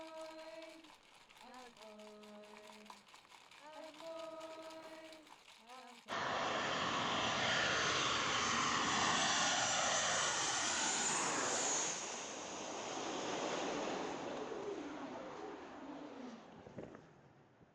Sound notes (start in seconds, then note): 0.0 singing in language with rattle; 6.5 loud airplane sound; 10.8 air whooshing